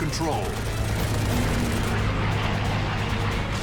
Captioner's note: gunfire